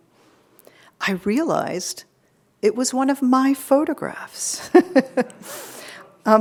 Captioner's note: laughing